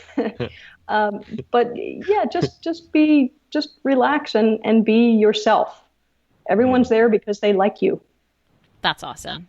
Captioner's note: laughs